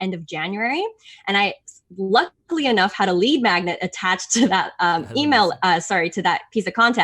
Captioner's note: chuckles